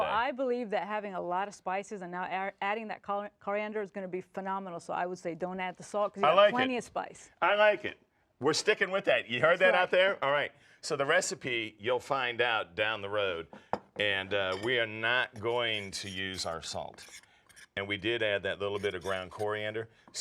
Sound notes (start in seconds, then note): none